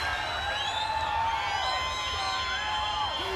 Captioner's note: crowd chatter